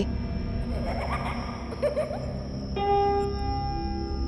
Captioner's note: child laughing